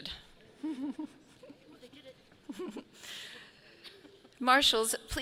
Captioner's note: laughing